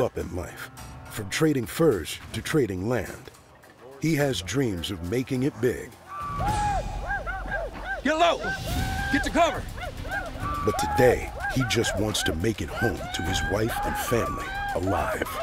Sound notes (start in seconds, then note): 6.1 war cries